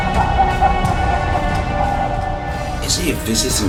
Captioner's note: sinister music; menacing laugh